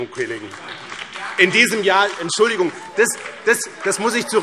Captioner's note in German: Beifall BÜNDNIS 90/DIE GRÜNEN, CDU und DIE LINKE - Widerspruch